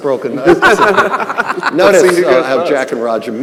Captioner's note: all laughing; laughing